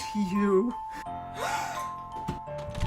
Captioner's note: gasps